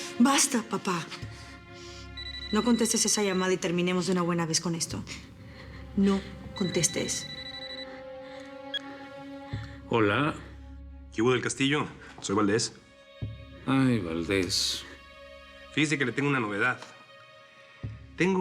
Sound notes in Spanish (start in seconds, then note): 6.2 Suena el celular